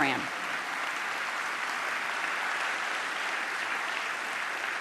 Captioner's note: applause